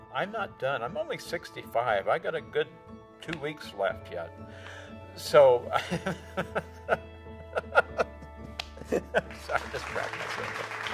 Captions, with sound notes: I'm not done. I'm only 65. I got a good two weeks left yet, so. [laughs] Sorry, I just cracked myself up.